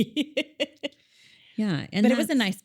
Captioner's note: laughs